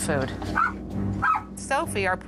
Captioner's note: barking